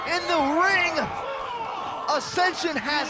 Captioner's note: crowd cheering